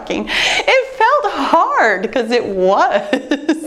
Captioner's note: chuckling